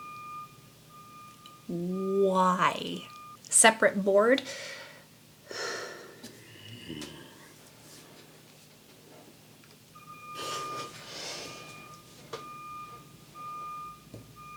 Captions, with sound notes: Why?! Separate board- [PROLONGED GROAN/GROWL] [TRUCK BEEPING OUTSIDE]